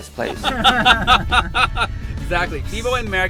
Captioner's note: laughing